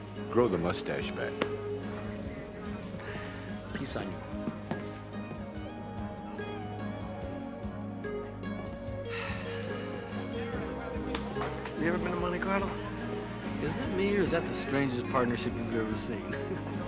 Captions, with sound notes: - Grow the mustache back, man. - Peace on you. (sighs) - You ever been to Monte Carlo? - Is it me, or is that the strangest partnership you've ever seen?